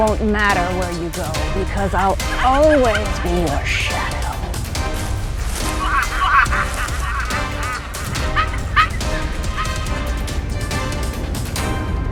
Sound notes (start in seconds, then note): 6.0 supernatural sounds